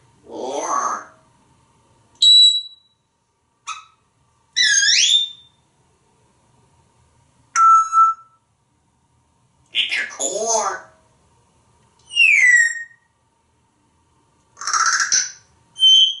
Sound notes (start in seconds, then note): 12.0 whistling